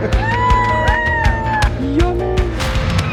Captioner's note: laughs; upbeat music; family cheers